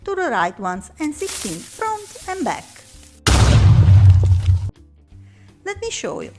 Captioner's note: explosion